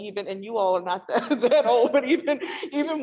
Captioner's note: all laugh